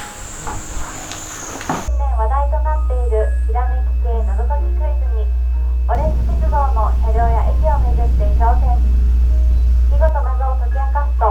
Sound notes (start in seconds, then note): 2.0 station announcement